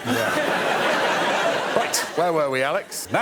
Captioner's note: laughter